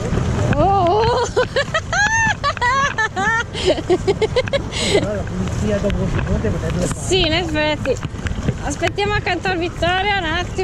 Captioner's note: laughs